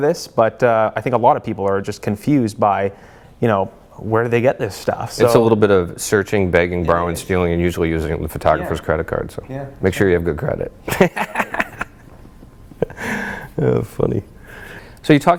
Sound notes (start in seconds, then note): 10.9 laughs